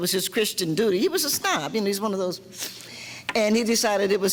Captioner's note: sniffs